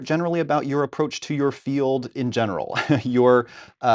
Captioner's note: laughing